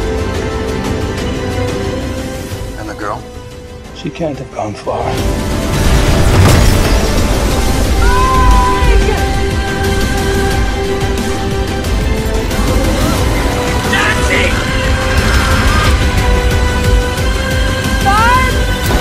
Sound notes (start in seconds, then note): 12.5 monster growls; 15.1 instense shrieking